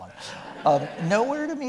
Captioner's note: audience laughing